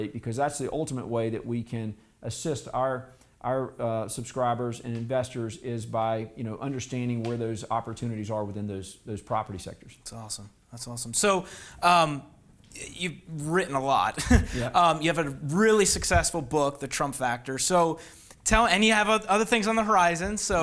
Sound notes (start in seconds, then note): 14.1 laughs